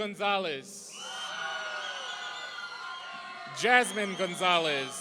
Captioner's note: audience cheering